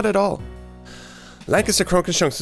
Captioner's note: big breath